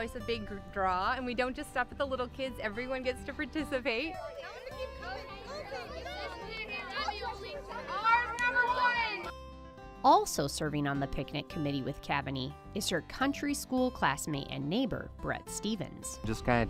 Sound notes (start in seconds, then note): 7.7 children talking